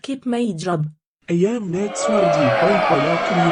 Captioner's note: audience booing